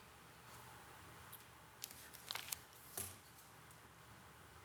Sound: static humming

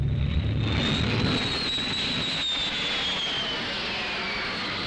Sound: planes whistling

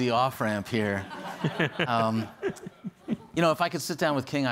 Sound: attendees laughing

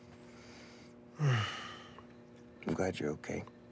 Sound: Rufus sighs

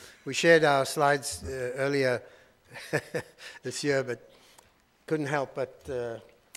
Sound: laughing

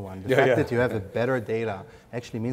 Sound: laughs

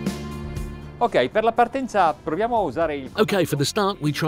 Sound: speaking in foreign language

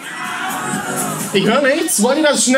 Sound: squeal

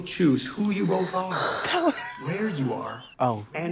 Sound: exhales

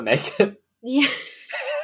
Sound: laughing; laughs

